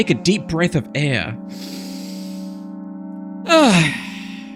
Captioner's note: inhales; exhales